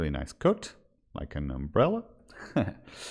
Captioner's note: chuckles